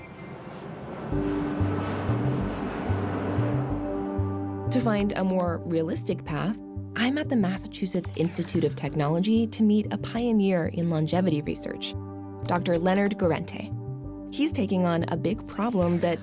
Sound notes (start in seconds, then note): 0.0 plane flying; 3.0 calming music